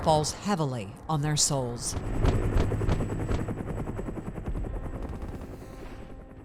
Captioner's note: helicopter and gunfire rumbling muffling continues; somber music